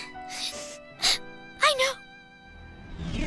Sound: sniffle

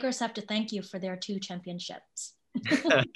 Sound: laughs

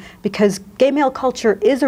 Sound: none

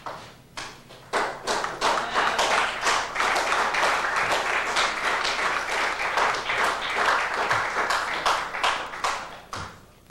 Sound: applause

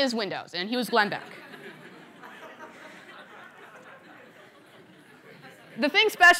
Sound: laughter

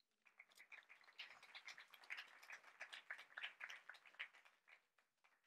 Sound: audience clapping

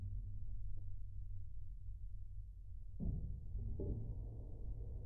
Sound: ambient sounds and creaks

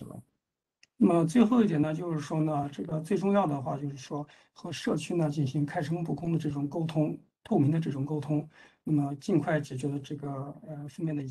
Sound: speaks in Mandarin

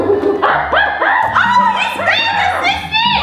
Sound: gorilla sounds

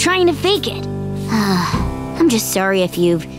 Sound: sighing

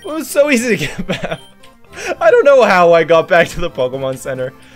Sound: laughs

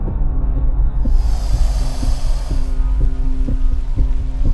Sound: alligator hissing

